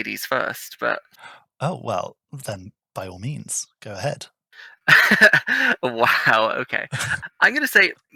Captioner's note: laughing